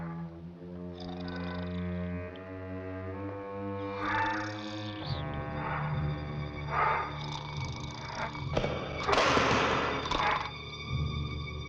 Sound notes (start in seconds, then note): 8.3 crashing